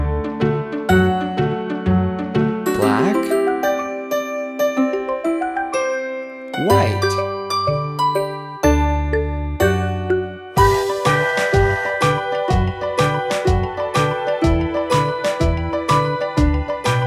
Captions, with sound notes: Black. White. (train whistles) (upbeat music)